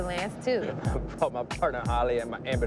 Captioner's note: laughing